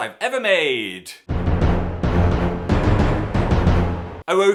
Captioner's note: dramatic sound effect